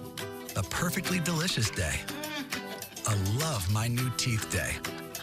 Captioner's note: chuckles